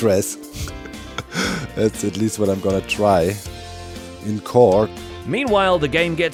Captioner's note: chuckles